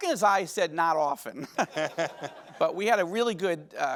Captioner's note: audience laughing